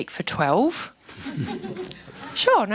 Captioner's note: laughing